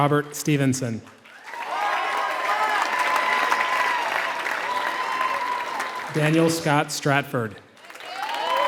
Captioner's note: applause